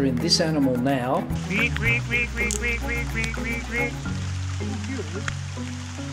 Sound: imitating frogs

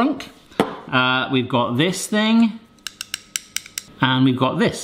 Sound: tapping

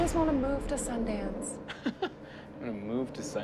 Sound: laughs

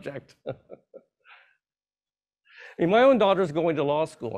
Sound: laughs

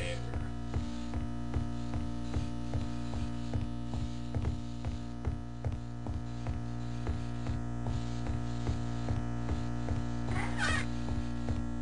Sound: electrical buzzing with sparking sounds.mp3

